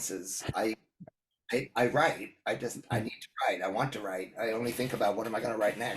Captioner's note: laugh